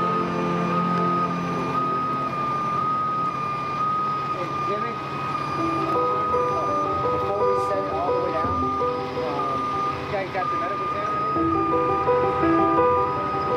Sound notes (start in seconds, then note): 6.5 indistinct police chatter; 10.2 uplifting music